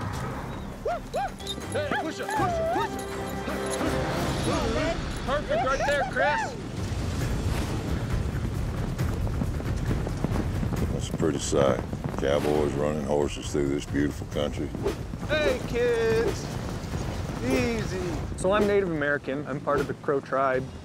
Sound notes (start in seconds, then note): 4.4 hoofbeats